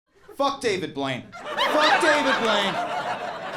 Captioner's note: audience laughing